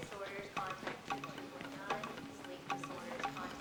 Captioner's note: over P.A